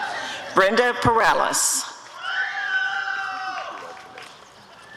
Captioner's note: applause and cheering